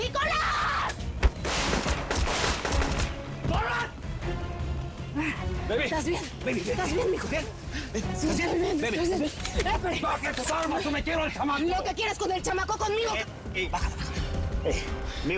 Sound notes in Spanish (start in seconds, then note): 1.2 Disparos